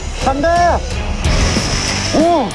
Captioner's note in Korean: 쏴아